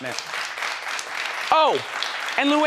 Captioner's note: audience applauding